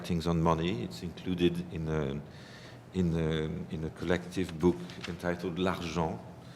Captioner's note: french